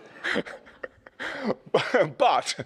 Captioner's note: laughs